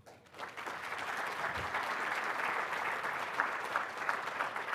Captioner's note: audience applauding